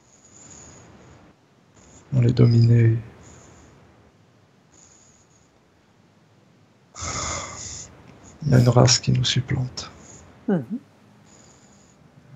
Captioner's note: breath